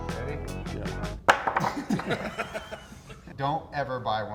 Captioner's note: laughs